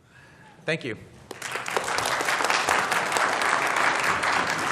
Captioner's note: applause